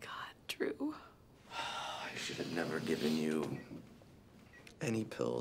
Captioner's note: sighs